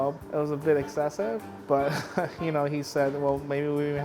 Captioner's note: chuckles